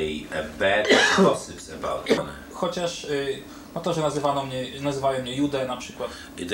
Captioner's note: speaking Polish